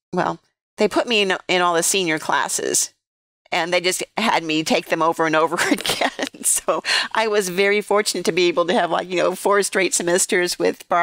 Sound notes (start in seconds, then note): 5.6 laughter